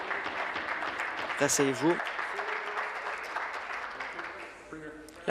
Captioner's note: applause